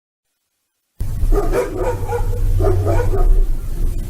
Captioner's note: dogs barking